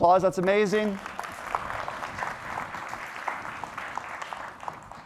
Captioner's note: applause